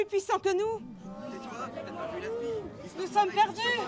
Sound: crowd debates

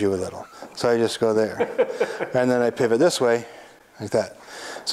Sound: guy laughs

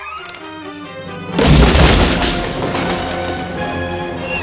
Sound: log Snap

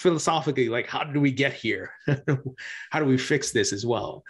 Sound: laughs

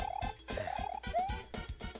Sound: sigh

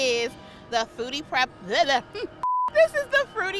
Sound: stutters

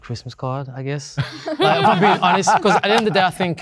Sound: group laughing

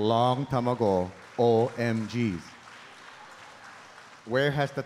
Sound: audience applauding

